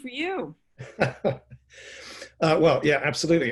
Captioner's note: laughs